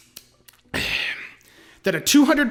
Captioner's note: satisfied sigh